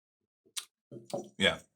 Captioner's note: smacking lips